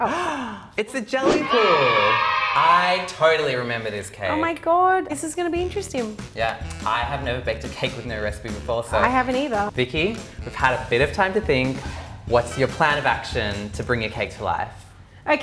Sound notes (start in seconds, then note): 1.3 kids cheering noises